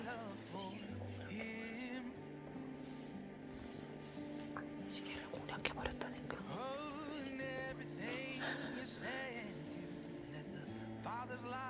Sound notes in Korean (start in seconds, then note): 2.7 소근소근; 6.6 소근소근; 8.0 웃음